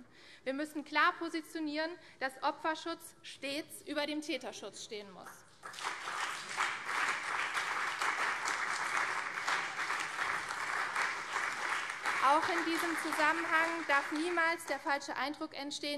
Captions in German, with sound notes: Wir müssen klar positionieren, dass Opferschutz stets über dem Täterschutz stehen muss. [Beifall CDU und vereinzelt SPD] Auch in diesem Zusammenhang darf niemals der falsche Eindruck entstehen,